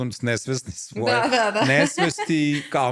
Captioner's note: laughter